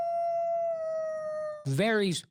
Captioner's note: wolf howl